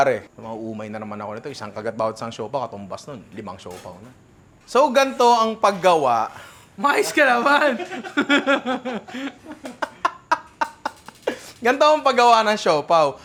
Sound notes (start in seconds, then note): 10.3 laughter